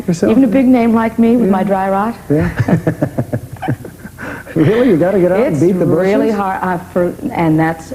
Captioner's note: laughter